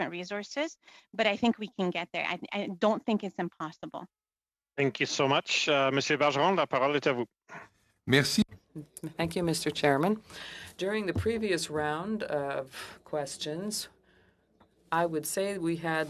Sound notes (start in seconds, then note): 12.7 speaking French